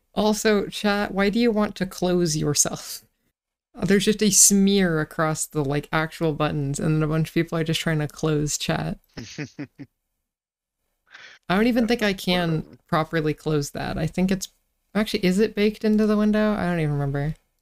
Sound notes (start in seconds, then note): 9.2 soft laugh